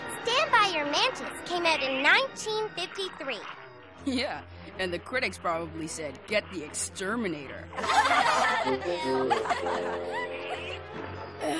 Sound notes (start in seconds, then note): 7.7 laughter